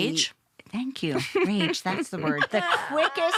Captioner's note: laughter